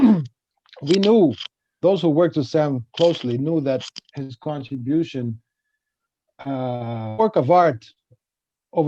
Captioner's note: glitch